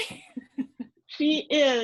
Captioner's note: laughing